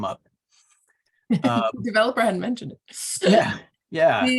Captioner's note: laughs